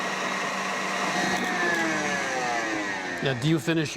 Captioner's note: mixer stops whirring